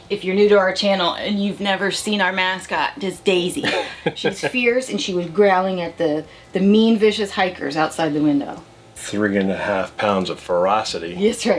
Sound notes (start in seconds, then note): 3.6 laughing